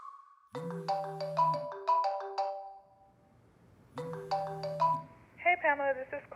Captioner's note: ringtone